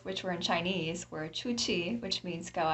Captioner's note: speaks in foreign language